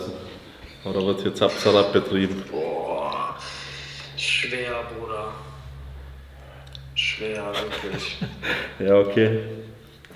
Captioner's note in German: seufzt